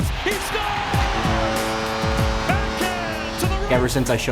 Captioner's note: horn blows